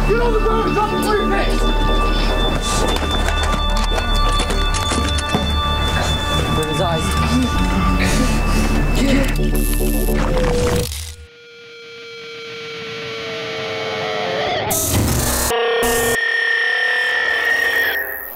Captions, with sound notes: Get on the ground and drop the breifcase! There are his eyes. (Asaph Panting)